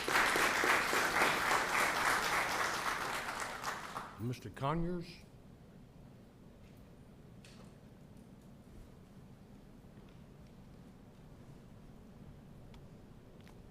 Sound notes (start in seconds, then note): 0.0 applause